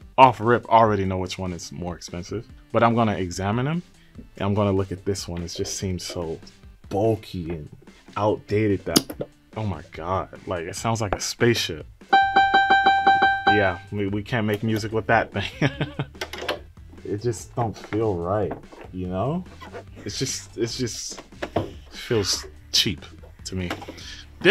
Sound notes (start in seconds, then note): 9.1 button clicks; 12.1 keyboard clanging; 15.4 laughs